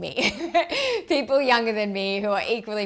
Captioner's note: chuckling